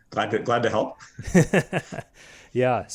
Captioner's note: laughing softly